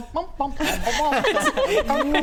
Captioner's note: inspired laughs